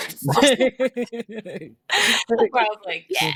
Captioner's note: laughs